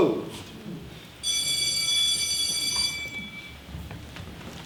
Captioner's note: school bell rings